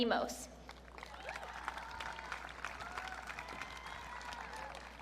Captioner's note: audience cheering